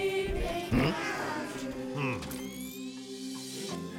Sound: whirring; distant singing

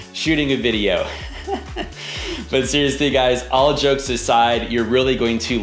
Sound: laughs

